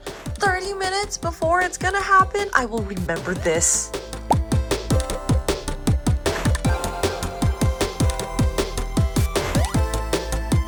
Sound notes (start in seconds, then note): 4.2 pop sound